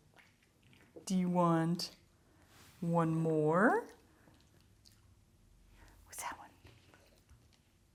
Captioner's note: whispered